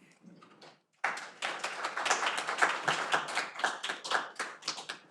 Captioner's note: audience applauding